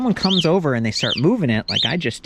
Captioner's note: alarm whistling